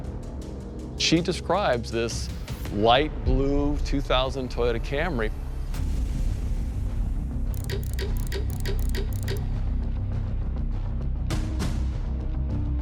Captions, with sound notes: She describes this light blue 2000 Toyota Camry. [tense music playing] [clock gears clicking]